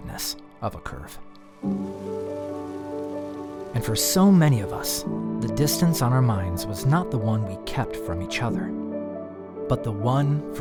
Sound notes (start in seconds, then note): 1.4 water bubbling in fountain